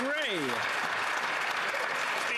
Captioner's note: some Applause